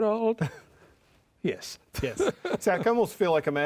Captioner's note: chuckles